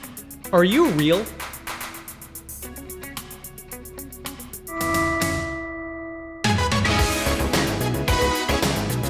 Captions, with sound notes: - Are you real? (instrumental music) (chimes) (techno music)